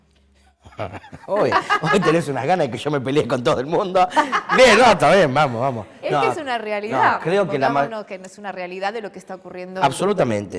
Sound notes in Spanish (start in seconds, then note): 4.3 risas